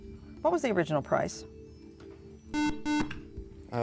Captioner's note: beeping